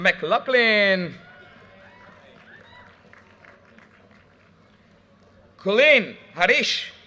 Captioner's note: audience cheers and applause